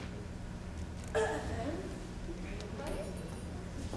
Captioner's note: Hortensio clears throat